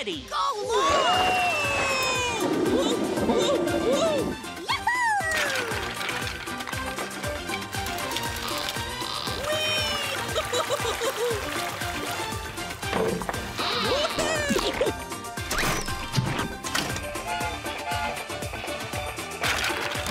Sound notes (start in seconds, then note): 9.0 laughing; 16.9 train horn blowing